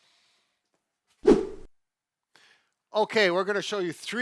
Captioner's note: screen swooshes